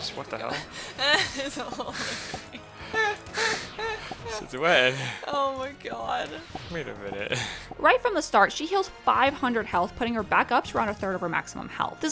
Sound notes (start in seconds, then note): 0.9 laughs